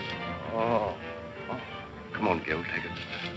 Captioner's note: groaning